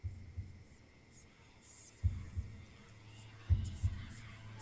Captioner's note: eerie whispering